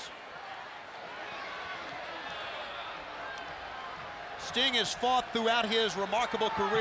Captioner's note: applause